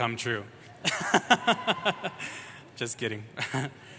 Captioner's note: laughs